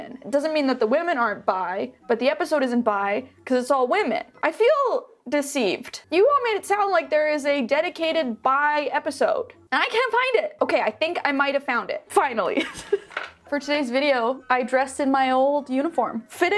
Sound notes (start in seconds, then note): 12.8 laughs